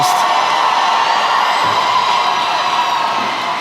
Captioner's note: applause